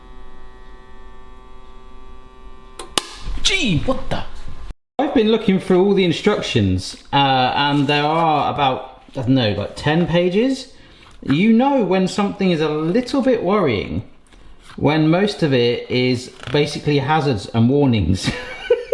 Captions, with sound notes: (machine cracking) Gee, what the? I've been looking through all the instructions, and there are about, I don't know, 10 pages. You know when something is a little bit worrying when most of it is basically hazards and warnings.